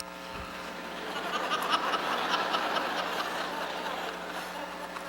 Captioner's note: laughter